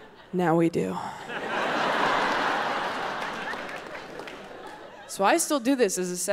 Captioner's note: audience laughing